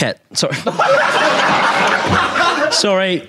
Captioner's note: audience laughing